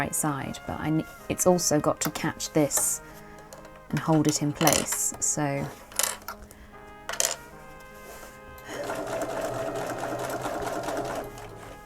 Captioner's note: sewing